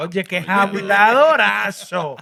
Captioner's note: non-english Speech